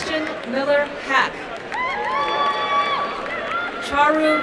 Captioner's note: applause and cheering